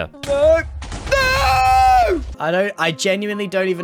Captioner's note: explosions